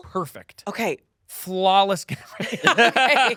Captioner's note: laughs